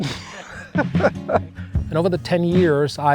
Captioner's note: laughs